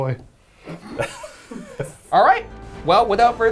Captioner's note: everyone laughing